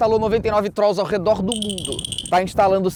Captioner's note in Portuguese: som de batidas